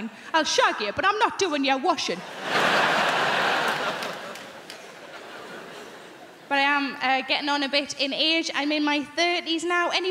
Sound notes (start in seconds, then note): 2.2 crowd laughing